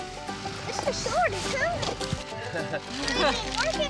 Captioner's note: laugh